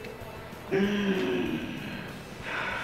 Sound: breathes heavily

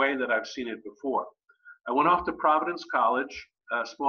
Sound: none

